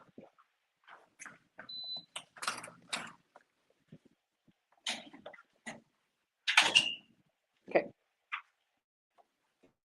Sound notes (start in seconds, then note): 1.7 beeper beeps